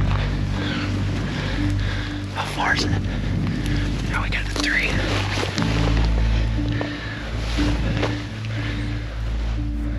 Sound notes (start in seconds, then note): 2.2 whispering